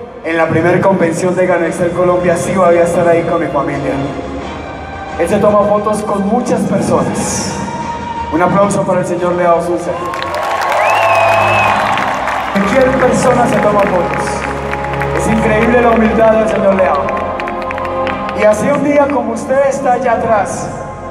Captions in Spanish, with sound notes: En la primer convención Gano Excel Colombia. Si voy a estar ahí con mi familia. El se toma fotos con muchas personas. Un aplauso para el señor Leow Soo Seng. (aplausos) Es increible la humildad del señor Leow. y así un día como usted esta allá atras.